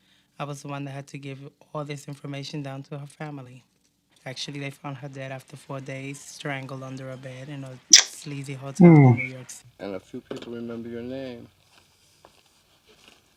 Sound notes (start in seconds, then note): 8.8 tsk